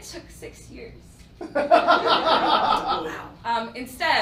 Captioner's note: laughing